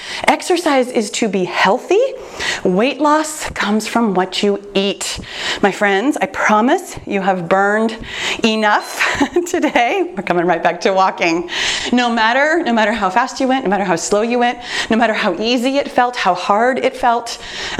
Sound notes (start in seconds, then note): 8.0 timer beeps; 8.9 chuckles